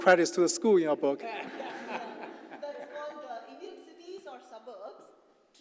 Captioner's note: laugh